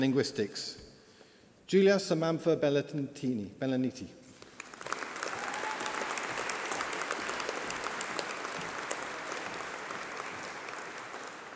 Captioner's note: applause